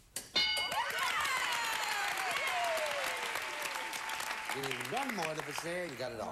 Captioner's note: audience applauding